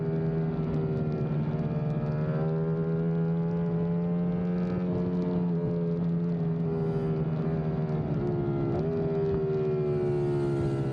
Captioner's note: engine roaring